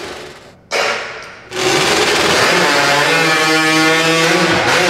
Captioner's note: chainsaws buzzing